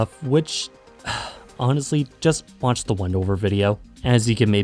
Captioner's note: sigh